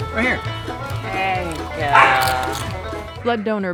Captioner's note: dog barks